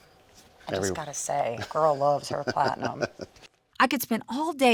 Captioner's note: chuckling